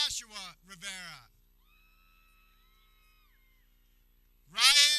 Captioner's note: people cheering